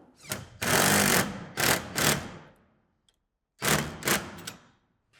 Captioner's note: drill whirring